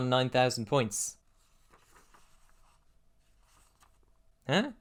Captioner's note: pages flipping